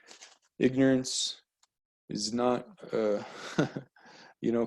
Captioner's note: light laugh